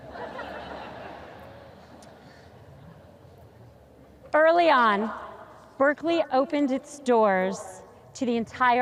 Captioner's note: audience laughs